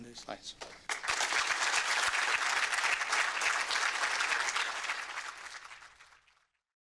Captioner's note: applause